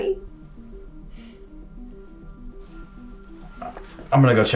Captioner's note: soft dramatic music; Blaine scoffs